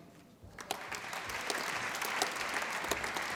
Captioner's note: applause